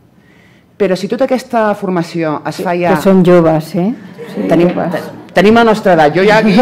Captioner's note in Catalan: riures